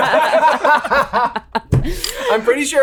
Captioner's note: all laughing